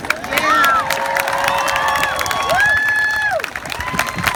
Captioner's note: crowd claps and cheers